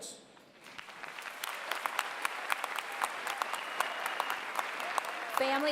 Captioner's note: applause